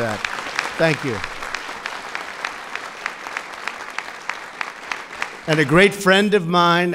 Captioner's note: applause